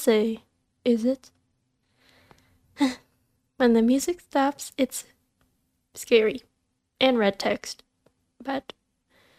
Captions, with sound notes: *sigh* When the music stops it's scary. And red text. But,